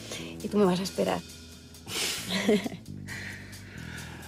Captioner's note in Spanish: Risas